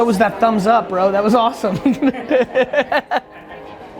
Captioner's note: laughs